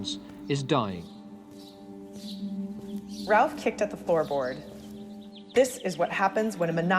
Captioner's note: soundbite of birds chirping